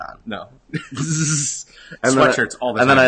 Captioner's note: laughter